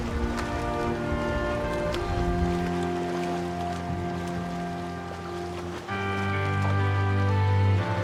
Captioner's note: water splashes